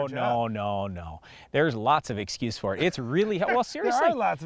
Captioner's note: laughs